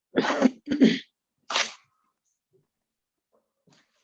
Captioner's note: coughing off camera